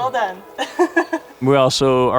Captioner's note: laughs